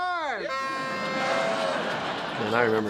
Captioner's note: horn toots; audience laughs